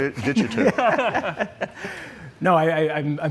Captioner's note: laughs